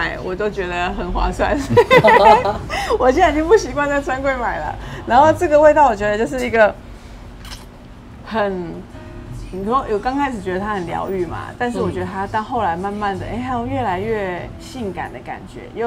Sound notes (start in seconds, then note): 1.5 laughs